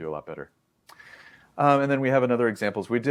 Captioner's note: lips smack; inhales